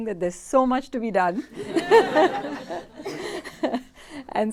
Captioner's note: laughter